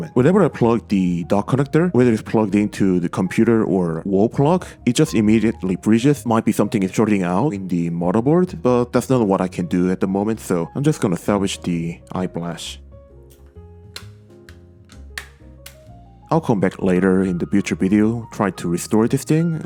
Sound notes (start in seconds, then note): 13.9 iPod shell clips clicks